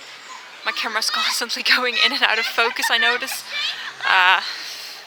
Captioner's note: laughs